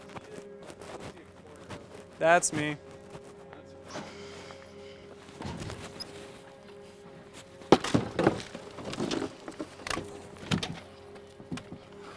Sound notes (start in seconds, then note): 7.6 debris clatters